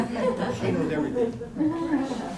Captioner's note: laughter